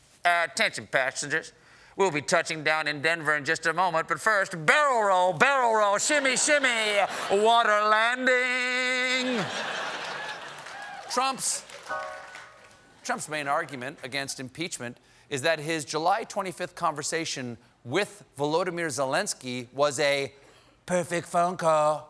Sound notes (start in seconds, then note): 8.5 piano riff; 9.0 laughter